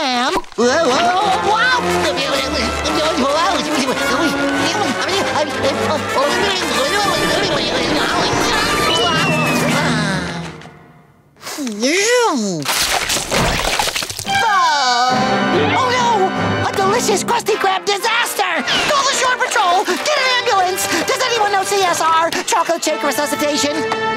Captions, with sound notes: Whoa-whoa-whoa-whoa-whoa! Whoa! Whoa! [yelling] [sighing] Whew! [groaning] Oh, no! A delicious Krusty Krab disaster! Call the shore patrol! Get an ambulance! Does anyone know CSR? Chocolate shake resuscitation?